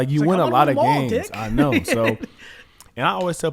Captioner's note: laughs